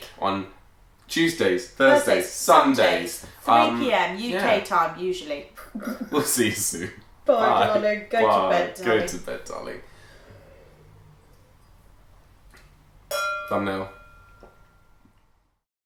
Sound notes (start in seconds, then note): 5.6 chuckling; 13.1 glasses clinking